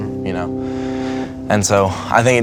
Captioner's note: deep breath